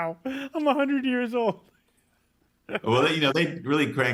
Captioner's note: laughing